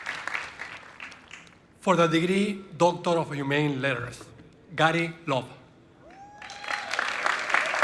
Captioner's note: applause